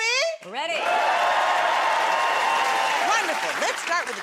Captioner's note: cheers and applause